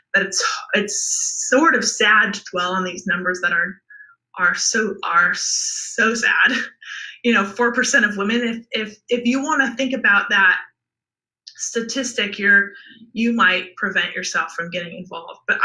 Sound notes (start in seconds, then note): 6.6 laughs